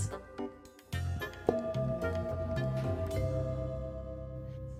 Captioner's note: bong